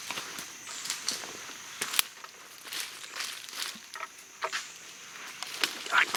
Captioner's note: leaves and sticks crunching and snapping